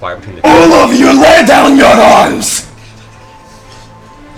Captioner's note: shouts